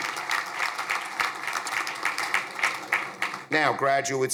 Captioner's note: crowd applauding